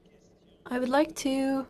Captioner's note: speaking French